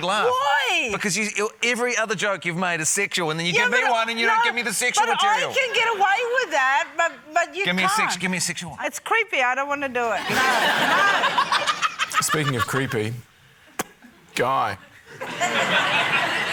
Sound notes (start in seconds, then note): 10.2 laughter; 13.7 pops lips; 15.0 laughter